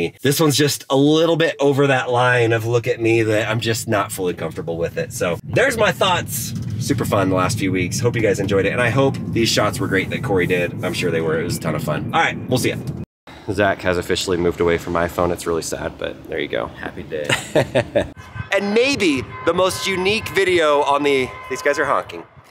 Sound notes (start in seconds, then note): 17.1 laughing